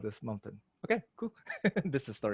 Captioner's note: chuckles